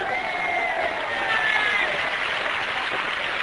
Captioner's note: cheering